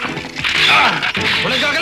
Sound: man on TV grunts

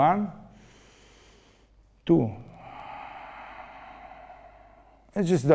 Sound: controlled breathing

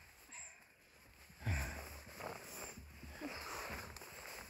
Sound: none

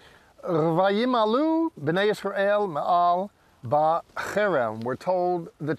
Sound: speaking in Hebrew

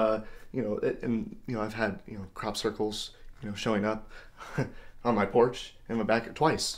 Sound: laughs

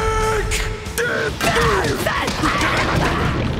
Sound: grunting

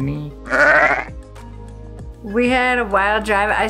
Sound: vicuna orgling

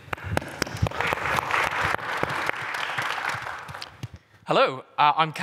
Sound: applause

